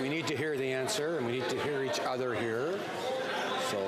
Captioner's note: crowd Noise